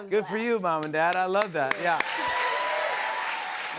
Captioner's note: cheers and applause